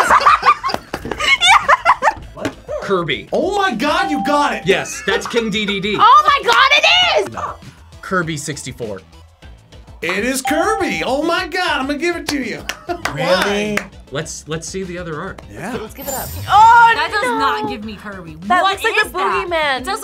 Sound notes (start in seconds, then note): 0.0 both laugh; 2.5 buzzer barks; 7.3 buzzer barks